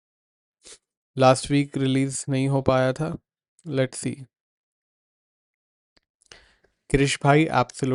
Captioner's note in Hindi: नाक से की जाने वाली आवाज़